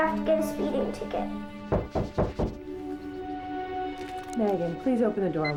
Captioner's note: knocking on door